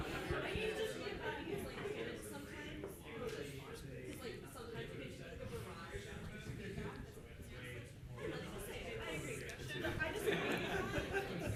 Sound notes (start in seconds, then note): 0.2 participants laughing; 7.4 participants chattering